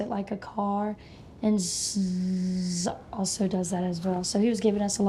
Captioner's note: buzzes